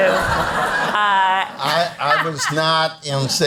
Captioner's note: all laugh